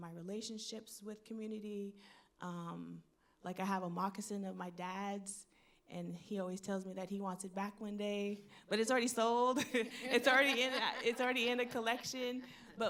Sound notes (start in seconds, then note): 10.0 laughs; 10.2 audience laughing